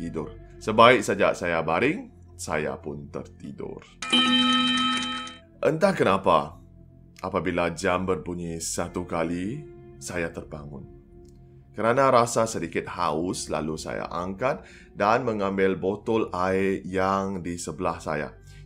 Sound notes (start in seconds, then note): 4.1 clock chimes once